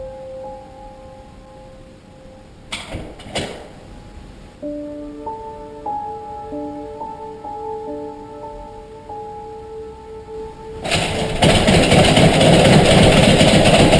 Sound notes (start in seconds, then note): 2.7 door banging; 10.9 door handle rattling